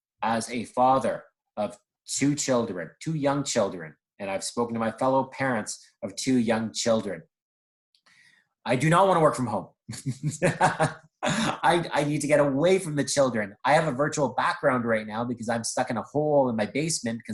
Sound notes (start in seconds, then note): 10.4 laughs